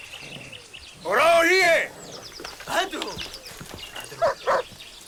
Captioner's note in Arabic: الصوت المنطوق البدوي